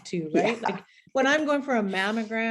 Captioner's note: chuckling